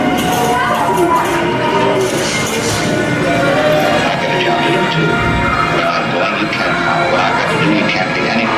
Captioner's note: voice of Humphrey Bogart